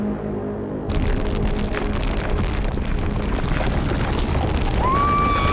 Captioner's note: dramatic music; ground rumbling; Glenda screaming